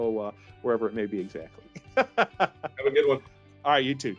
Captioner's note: laughing